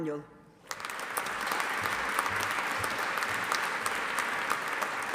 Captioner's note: audience applauding